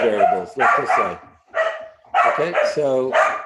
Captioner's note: dog barking